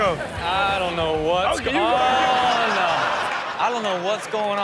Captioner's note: audience laughing